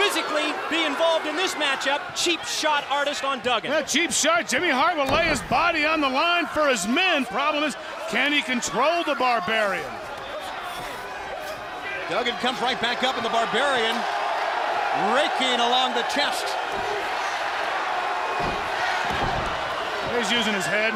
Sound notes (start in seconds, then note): 10.6 crowd chatter; 16.9 crowd cheering